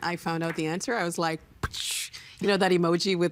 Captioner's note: making explosion sound